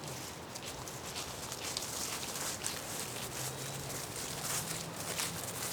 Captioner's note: footsteps pattering